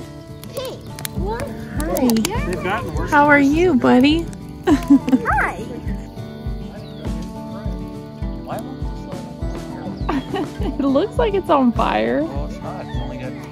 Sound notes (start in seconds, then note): 6.1 more relaxing music in background; 10.0 laughter